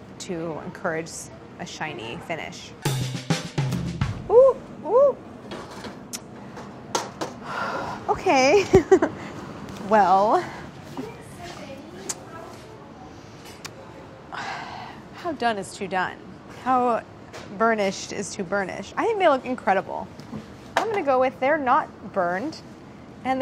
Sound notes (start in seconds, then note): 2.8 upbeat percussion music; 7.1 laughs; 10.2 sighs